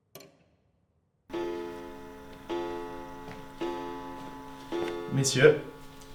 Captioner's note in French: le carillon sonne quatre coups